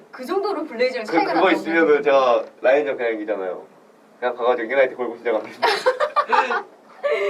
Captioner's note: laughs